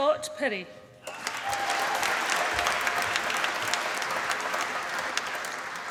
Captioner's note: applause